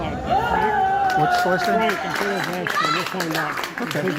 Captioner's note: audience cheers and applauds loudly